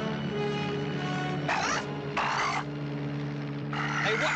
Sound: squawks

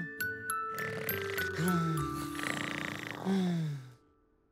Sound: snoring

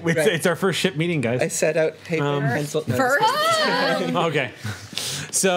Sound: overlapping chatter

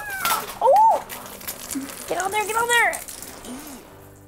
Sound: blood spraying

